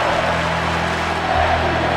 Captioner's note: audience clapping